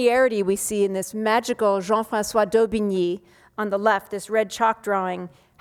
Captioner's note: speaking foreign language